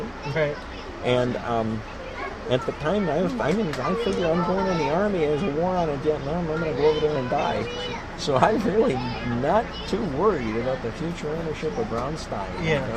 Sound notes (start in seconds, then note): 7.7 laughs